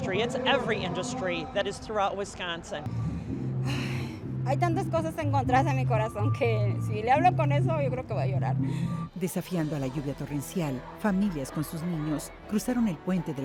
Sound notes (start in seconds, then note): 4.5 speaking in foreign language